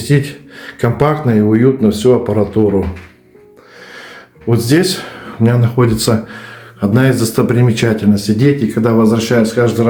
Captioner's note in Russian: вздыхает